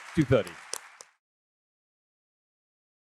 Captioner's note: applause